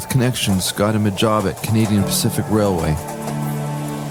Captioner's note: train entering